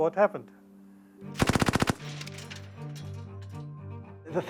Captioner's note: machine gun burst